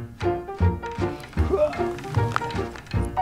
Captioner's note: sounds of pain when bending over